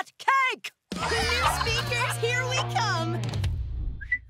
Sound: cheering; whistling

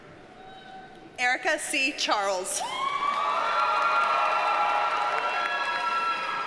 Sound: audience cheers and applauds

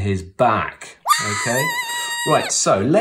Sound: cartoon screaming

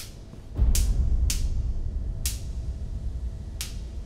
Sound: popping noise

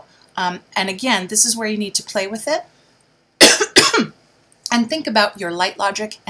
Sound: coughs

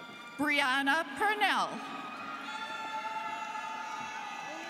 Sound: students cheering

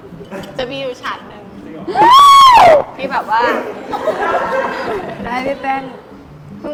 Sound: screaming

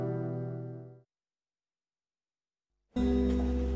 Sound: silence

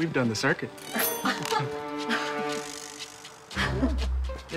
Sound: laughing

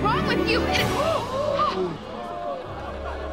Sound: gasping

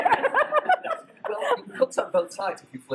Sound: laugh

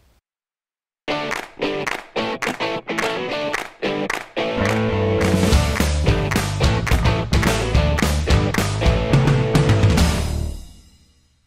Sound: claps

